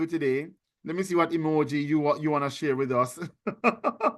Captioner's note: laughing